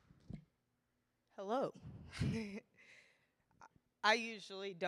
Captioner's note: chuckling